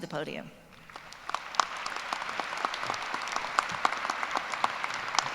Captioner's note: applause